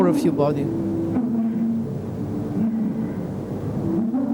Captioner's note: breathing sound